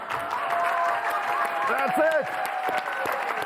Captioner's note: audience cheers